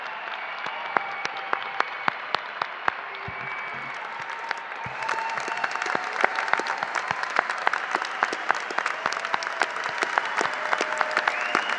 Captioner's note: applause